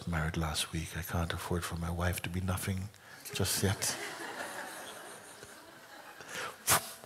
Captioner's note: laughter